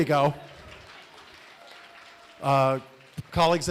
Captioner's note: applause